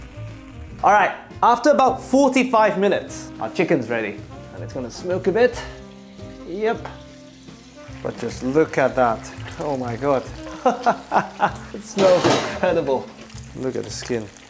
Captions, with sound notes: Alright, after about 45 minutes, our chicken's ready. And it's going to smoke a bit. Yep. But just look at that. Oh my God. [laughs] It smells incredible. Look at the skin.